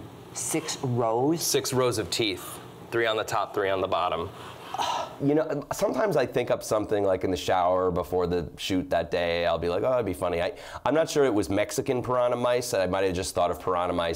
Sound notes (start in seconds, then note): 4.3 gasps